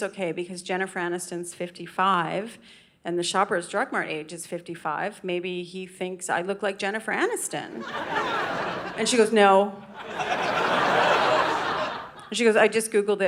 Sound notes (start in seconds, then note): 7.8 audience laughing